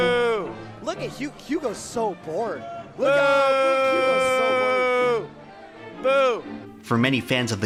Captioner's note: commentators booing Jigglypuff player on mic